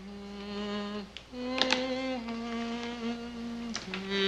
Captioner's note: Henrietta hums